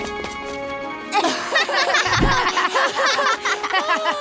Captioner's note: they laugh heartily